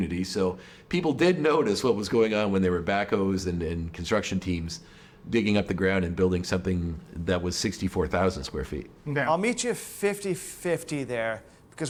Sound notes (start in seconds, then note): none